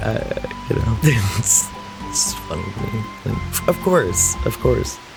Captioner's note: laughs